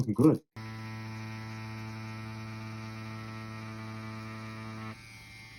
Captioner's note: machine buzzing quietly